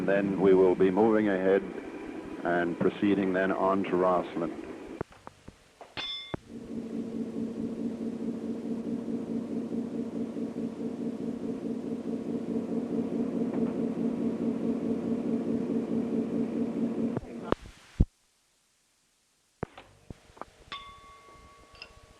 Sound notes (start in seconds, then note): 6.0 bell Sound; 7.1 sound of train moving; 20.7 bell Sound